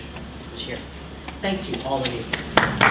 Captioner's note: applause